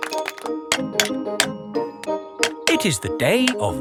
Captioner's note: clanking